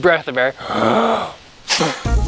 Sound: breathes in

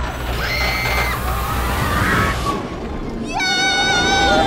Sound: riders screaming

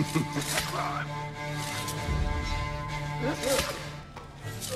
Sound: hidden blade stabbing sounds

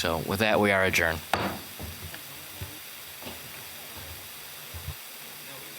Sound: pounding of gavel

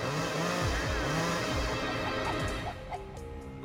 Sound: dramatic music; clucking

